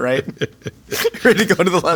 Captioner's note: J.K. laughing